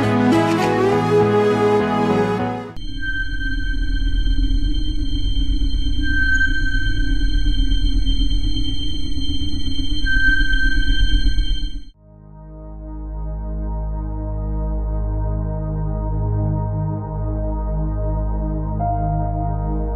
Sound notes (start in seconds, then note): 2.8 sound - sonar pinging